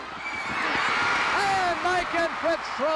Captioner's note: audience cheering